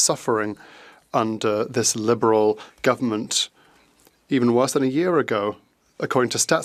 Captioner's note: speaking French